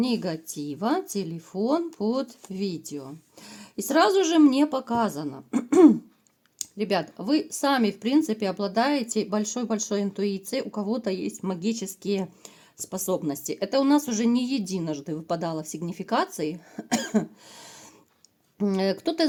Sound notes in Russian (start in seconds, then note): 5.5 откашливается